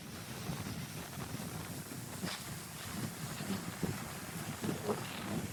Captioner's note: wind